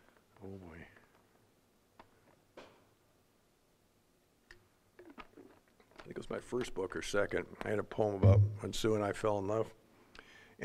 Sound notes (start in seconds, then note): none